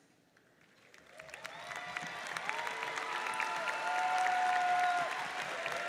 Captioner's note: audience cheers and applauds